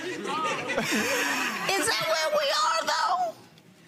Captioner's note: audience laughs